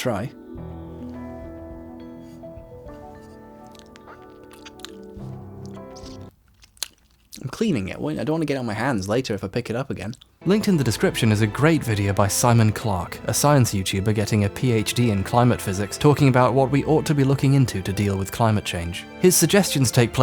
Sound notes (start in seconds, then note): 3.9 disgusting licking sounds; 5.6 music stops, more revolting licking and smacking